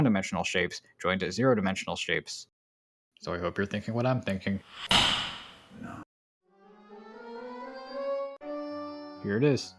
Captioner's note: click